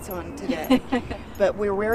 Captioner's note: laughs